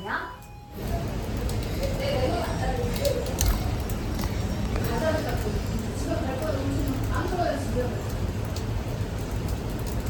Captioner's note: sobbing